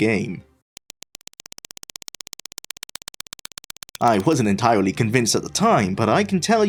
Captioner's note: clapping-like sound glitches